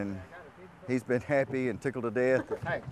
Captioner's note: all chuckling